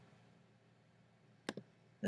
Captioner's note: click